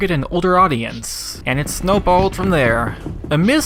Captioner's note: ball rolls